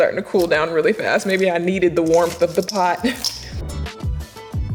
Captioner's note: laughs; chill music plays